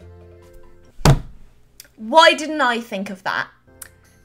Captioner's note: major sarcasm